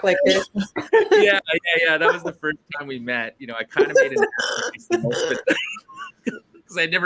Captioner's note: laughter